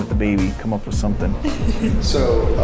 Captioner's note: laughing